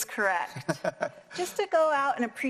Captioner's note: laugh